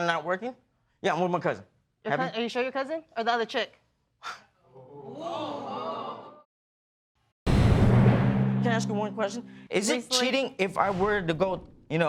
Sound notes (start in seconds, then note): 4.5 audience gasp; 4.5 sighs